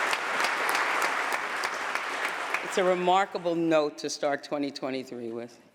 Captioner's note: applause